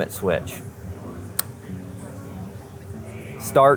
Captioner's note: switch clicks